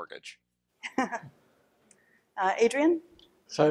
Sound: laughs

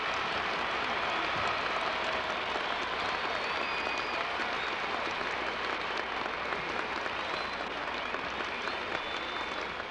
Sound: applause

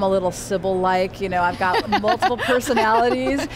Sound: laughs

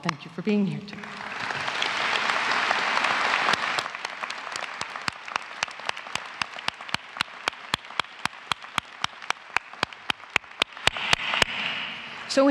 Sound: applause

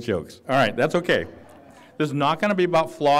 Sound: laughter

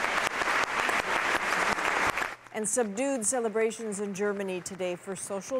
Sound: applause

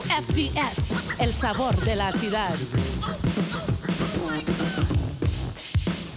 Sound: radio host speaks foreign language

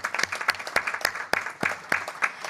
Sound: applause

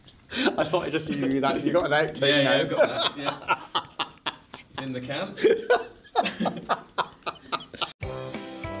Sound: laughter

